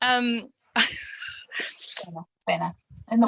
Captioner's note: laughing